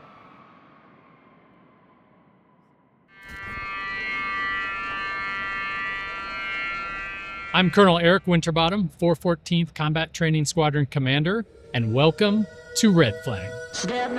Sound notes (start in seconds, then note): 3.4 klaxon wailing